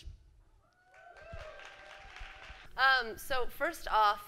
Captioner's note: applause